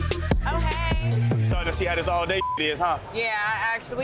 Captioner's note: beep